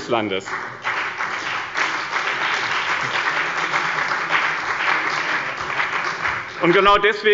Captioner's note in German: Beifall bei dem BÜNDNIS 90/DIE GRÜNEN und der CDU